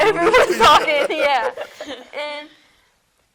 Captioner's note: laughs